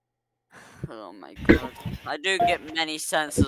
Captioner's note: exhales